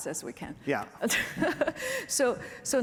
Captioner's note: laughter